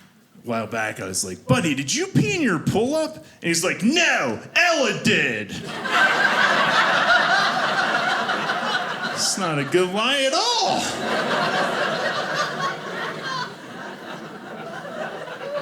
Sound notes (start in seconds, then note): 5.2 audience laughing; 10.6 audience laughing